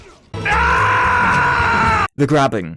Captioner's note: Werehog Scream